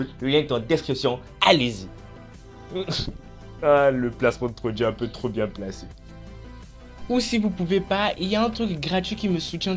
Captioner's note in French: rire gêné